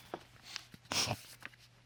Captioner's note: Judge Lake sniffles